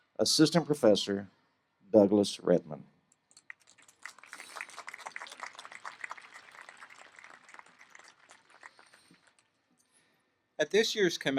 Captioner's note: applause